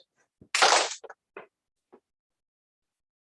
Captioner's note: clap